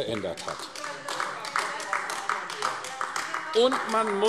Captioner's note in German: Beifall AfD